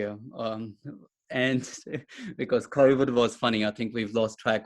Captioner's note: chuckles